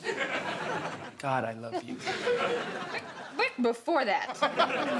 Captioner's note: stammers